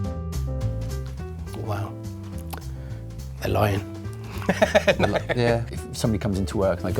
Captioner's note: laughs